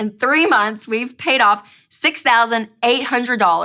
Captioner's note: none